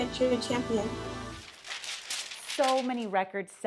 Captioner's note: paper crinkling